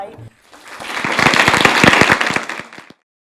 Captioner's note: applause